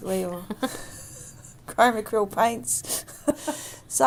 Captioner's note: both laugh